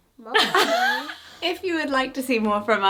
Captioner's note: laughing